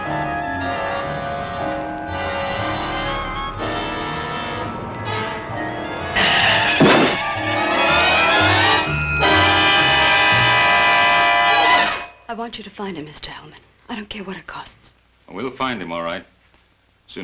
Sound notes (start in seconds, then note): 0.2 suspenseful music; 6.1 thudding; 6.3 tires squealing